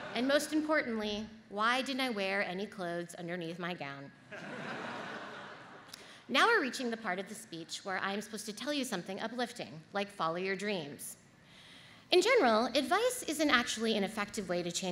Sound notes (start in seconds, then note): 4.3 audience laughs